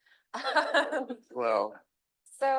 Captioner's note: chuckles